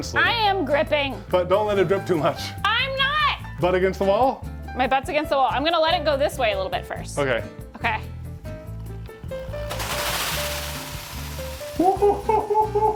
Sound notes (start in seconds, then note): 9.5 power drill whirring